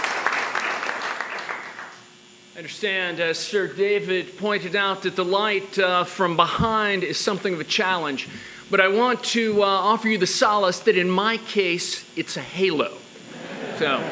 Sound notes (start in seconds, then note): 2.1 applause